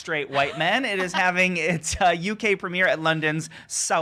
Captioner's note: laughs